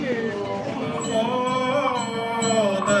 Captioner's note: chanting